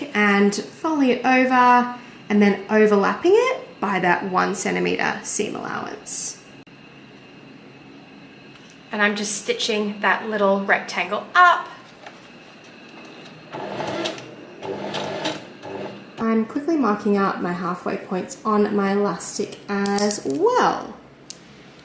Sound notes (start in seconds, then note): 14.6 sewing machine chugs along